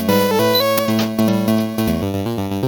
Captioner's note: click